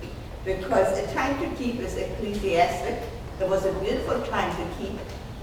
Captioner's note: speaking off mic and muffled